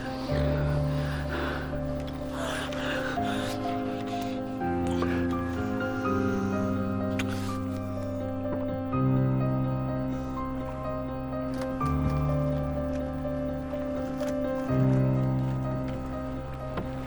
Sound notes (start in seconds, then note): none